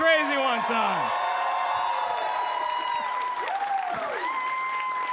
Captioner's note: audience cheering